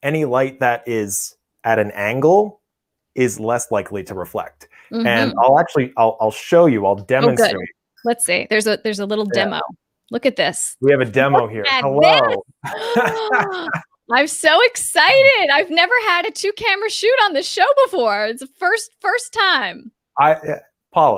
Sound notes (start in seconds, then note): 12.6 laughs loudly